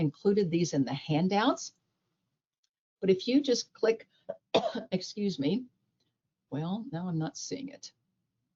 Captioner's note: coughs